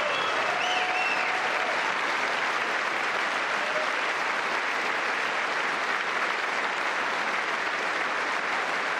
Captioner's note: applause